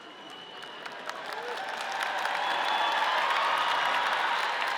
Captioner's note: audience cheers